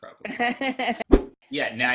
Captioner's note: laughs; whoosh